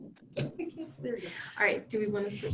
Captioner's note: giggles